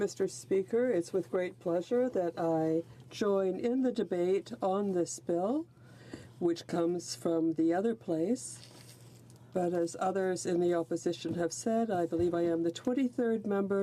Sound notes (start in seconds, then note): 2.7 speaking French